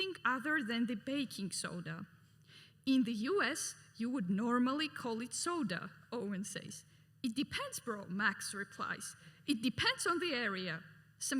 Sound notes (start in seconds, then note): none